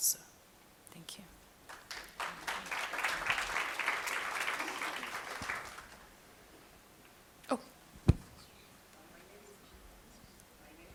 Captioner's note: applause